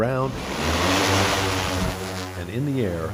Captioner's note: sound of drone taking off